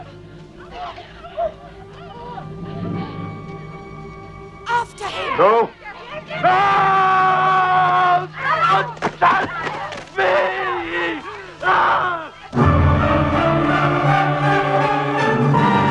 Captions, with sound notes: (Women gasping) - Let's all get him! - No! No! Don't touch me! (Screaming) (Dramatic choir music)